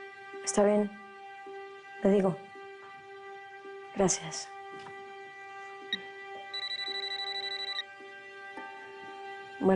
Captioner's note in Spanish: Bip; Suena el teléfono